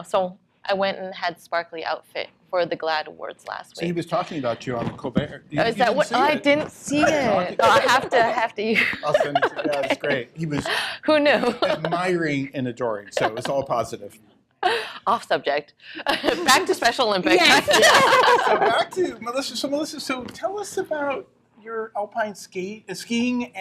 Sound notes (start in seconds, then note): 17.3 laughter